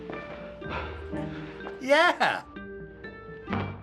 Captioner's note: man breathes heavily